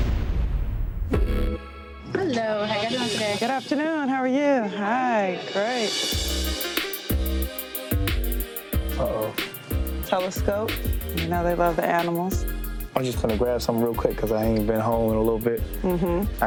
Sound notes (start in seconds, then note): 0.0 scene whooshing; 1.3 downbeat music